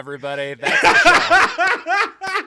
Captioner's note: laughing